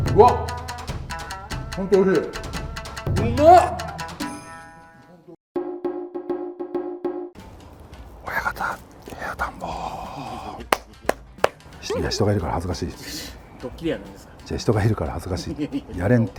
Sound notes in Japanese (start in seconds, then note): 11.1 小声